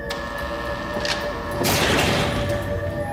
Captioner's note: door buzzer